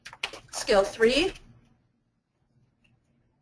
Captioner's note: voiceover